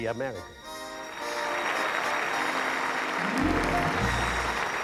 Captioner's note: applause